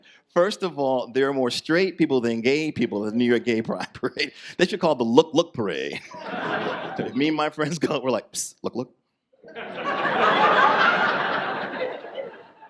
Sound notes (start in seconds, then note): 5.9 audience laughs; 9.4 audience laughs